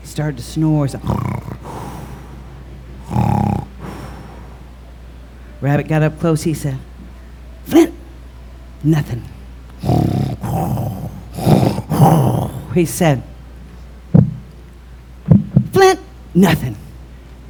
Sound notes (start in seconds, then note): 3.0 snoring; 9.8 snoring